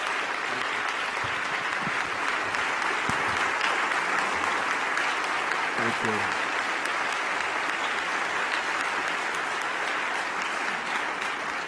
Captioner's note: applause